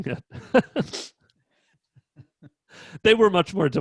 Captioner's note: laughing